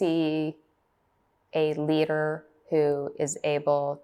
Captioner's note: through translator